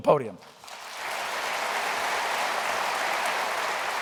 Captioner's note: applause